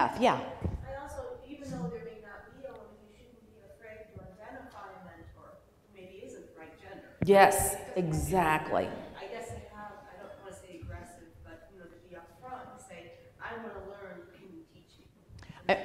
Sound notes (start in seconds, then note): 0.2 voiceover; 9.2 voiceover